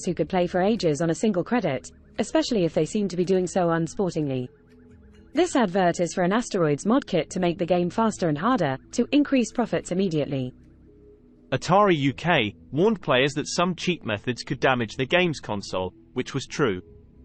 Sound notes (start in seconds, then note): 11.4 british male voice